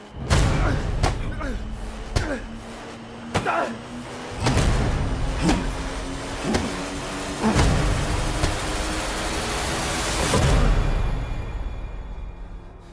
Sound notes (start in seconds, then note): 0.2 fists pounding; 5.4 man grunting